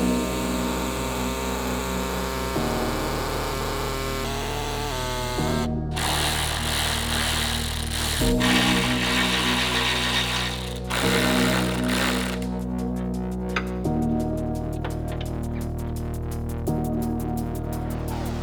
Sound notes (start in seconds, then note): 6.0 impact whirring